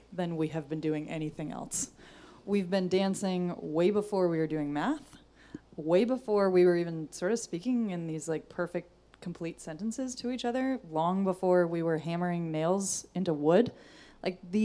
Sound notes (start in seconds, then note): none